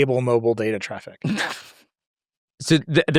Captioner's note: laughs